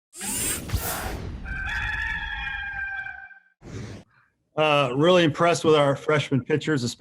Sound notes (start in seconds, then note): 1.4 rooster crow